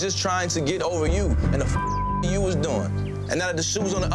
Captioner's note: beeps